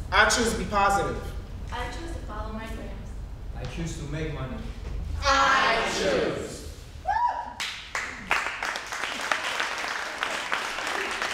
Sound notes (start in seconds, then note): 7.9 cheering and applauding